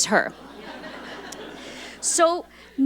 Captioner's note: audience laughing